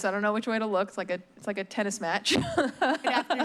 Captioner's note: laughs